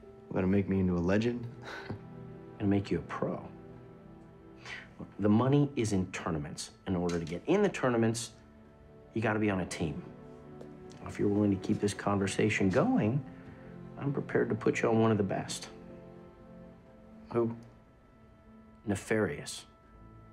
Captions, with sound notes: gonna make me into a legend? (laughing) - I'm gonna make you a pro. - The money is in tournaments. In order to get in the tournaments, you gotta be on a team. If you're willing to keep this conversation going, I'm prepared to put you one of the best. - Who? - Nefarious.